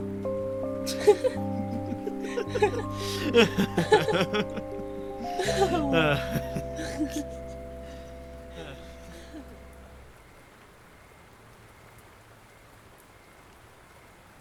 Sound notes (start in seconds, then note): 0.8 humorous laughter